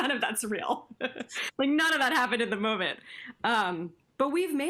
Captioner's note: laughter